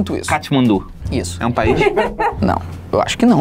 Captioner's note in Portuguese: risadas